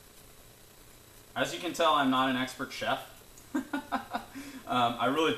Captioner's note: laughs